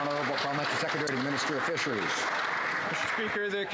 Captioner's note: some Applause